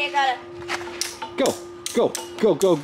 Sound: sticks tapping

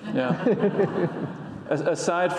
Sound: audience laughing

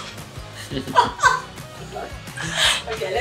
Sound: laughing

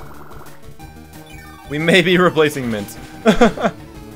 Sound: laughs

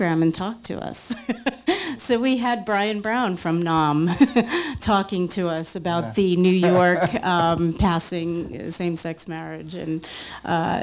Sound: laughs

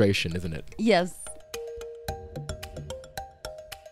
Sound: voiceover

